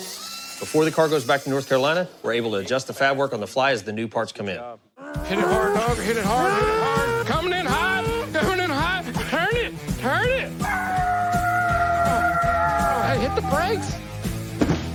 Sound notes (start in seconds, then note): 10.6 imitates tires squealing